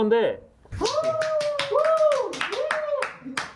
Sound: applause, cheers

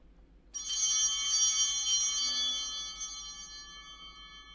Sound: altar bells ringing

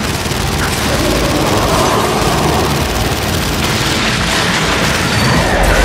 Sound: growling

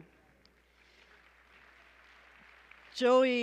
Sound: applause

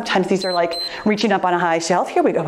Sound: timer beeps

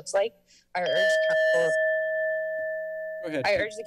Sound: timer sound

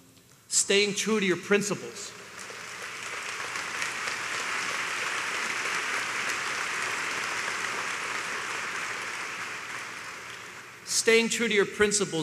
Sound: applause

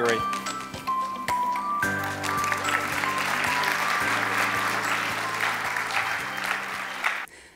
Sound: applause

